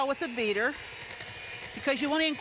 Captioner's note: beater whirring